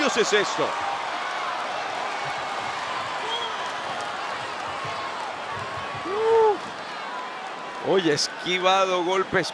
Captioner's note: applause